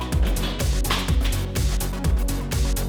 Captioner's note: crashes